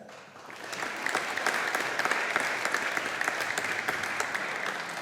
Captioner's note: audience applauding